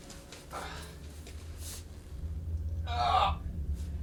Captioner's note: grunts